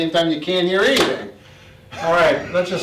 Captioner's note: laughs